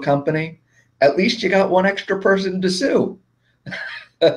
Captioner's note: laughing